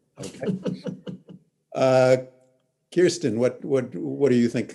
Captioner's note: laughs